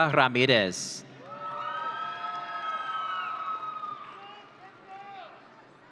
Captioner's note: audience cheering